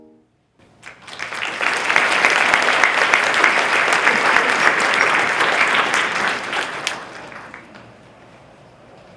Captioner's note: applause